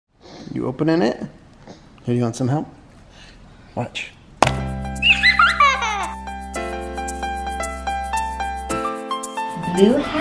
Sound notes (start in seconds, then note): 5.0 child giggles; 6.5 upbeat music